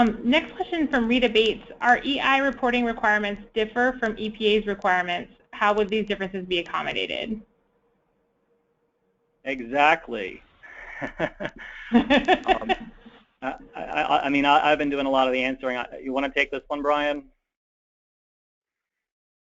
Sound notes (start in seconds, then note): 10.6 laughs